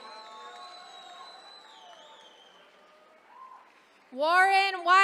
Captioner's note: attendees cheering